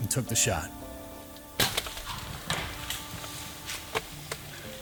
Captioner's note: bow thuds